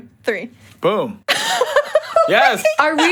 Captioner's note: all laugh